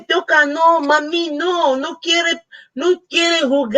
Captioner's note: speaking Spanish